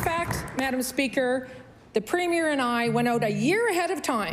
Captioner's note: applause